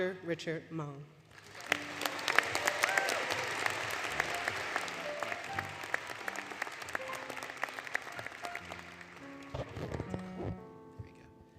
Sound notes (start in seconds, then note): 1.3 applause, Music; 9.7 applause, Music, Handling Noise